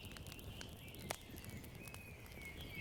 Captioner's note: birds chirping